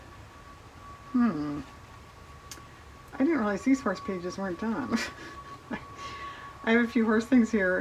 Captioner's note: laughs